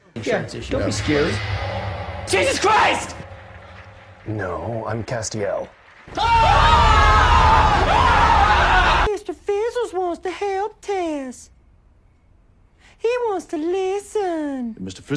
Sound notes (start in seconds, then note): 6.0 screaming